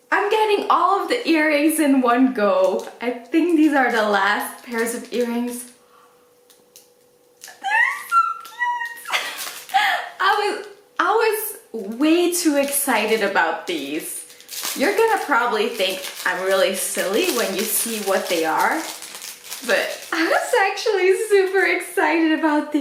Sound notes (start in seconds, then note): 7.5 laughs